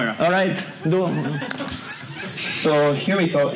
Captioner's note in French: rires